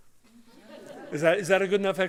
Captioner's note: laughter